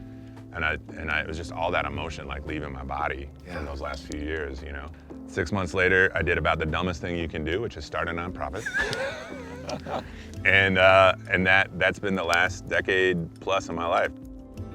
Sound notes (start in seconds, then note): 8.6 all laughing